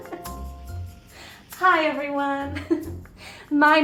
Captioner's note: laughs